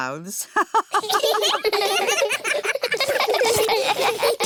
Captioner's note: laughs; all laughing